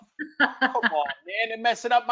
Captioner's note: laughs